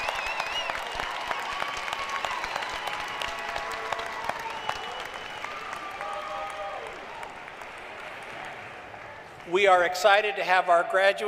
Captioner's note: cheering and applause